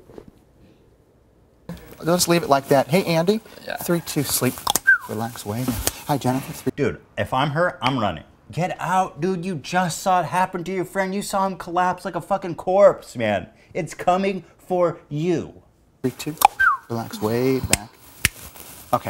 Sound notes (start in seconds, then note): 4.7 cluck-snap-whistle!; 7.9 snap!; 16.4 cluck-snap-whistle!